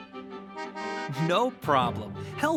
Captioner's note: car honks